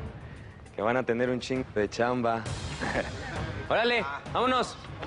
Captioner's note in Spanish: Risas